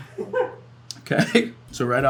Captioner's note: director laughing